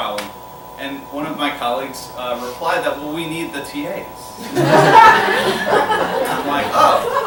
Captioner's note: laughter